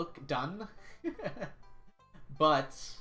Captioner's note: laughs